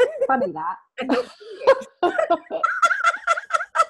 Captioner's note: laughs; laughing